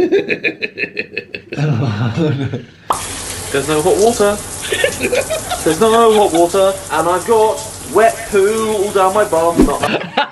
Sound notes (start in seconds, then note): 0.0 laughing; 3.0 pop; 3.0 shower trickling; 9.8 laughing